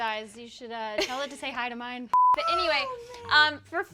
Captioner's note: laughs; beep